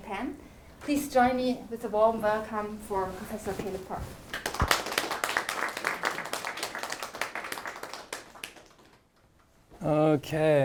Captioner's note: audience applauding